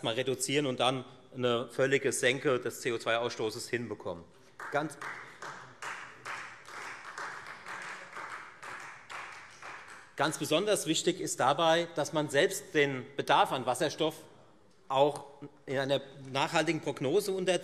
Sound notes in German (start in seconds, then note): 4.5 Beifall Freie Demokraten